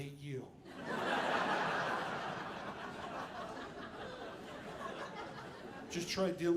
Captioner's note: audience laughing